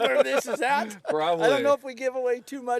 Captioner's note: laughter